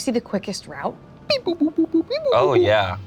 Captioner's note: beeping